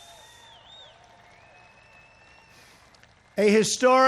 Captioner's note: applause